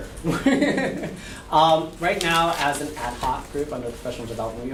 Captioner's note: laughs